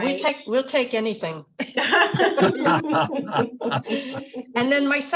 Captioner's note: laughter